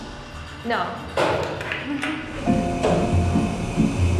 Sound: banging

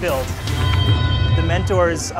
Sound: bell ringing

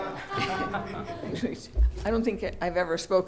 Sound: audience laughs

